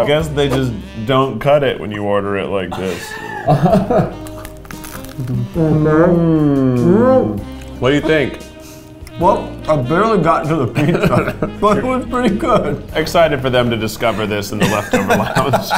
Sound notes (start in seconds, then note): 2.7 crew member laughs; 10.8 laughs; 14.5 laughs